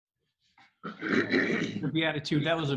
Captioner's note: gasps